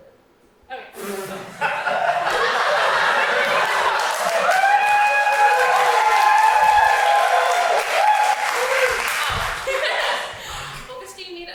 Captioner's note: Audience cheers for Cam hanging up on Elizabeth